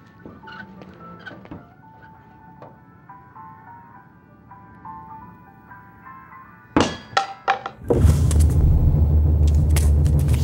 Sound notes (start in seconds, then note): 7.8 suspenseful music plays; 7.9 clatter